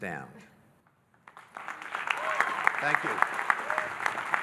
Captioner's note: audience applauding and cheering